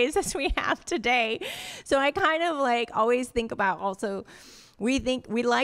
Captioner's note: laughter